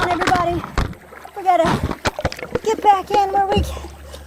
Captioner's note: noises of kayak hitting rocks. Camera falls into water